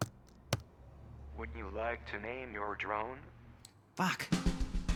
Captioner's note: machine Voice